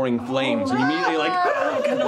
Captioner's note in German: schreit